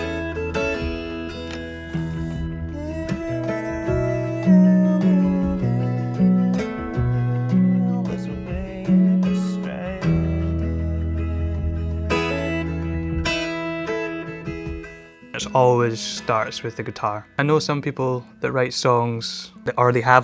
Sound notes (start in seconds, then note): 0.2 lighthearted guitar music; 3.2 humming melody